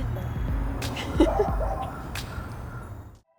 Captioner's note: laughs